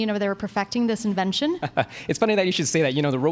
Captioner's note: laughs